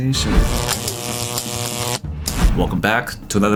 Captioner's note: electricity buzzing